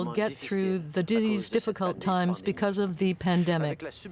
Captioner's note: speaking French